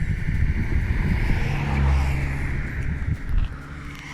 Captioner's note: traffic